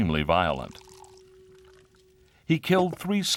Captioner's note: liquid poured into glass